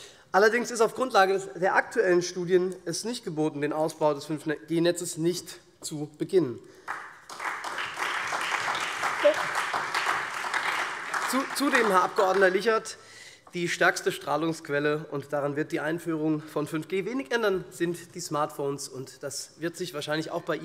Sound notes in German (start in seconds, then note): 6.8 Beifall SPD und Freie Demokraten